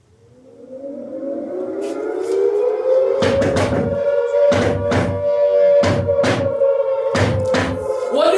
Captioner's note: sirens